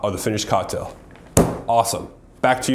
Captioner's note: bangs desk